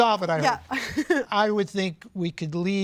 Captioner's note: chuckles